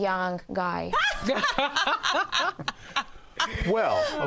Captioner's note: all laugh